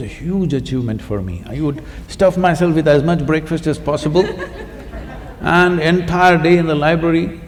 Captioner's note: laughter